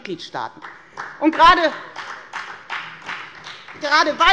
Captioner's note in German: Beifall bei der FDP und bei Abgeordneten der SPD